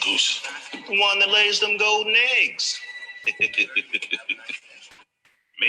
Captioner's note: laughter